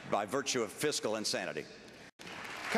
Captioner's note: applause